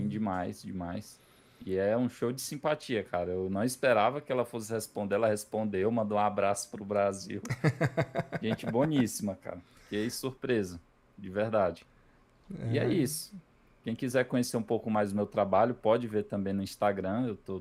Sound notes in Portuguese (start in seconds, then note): 7.4 risadas